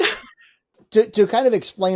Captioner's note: chuckles